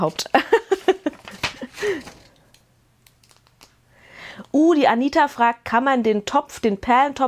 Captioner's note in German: gelächter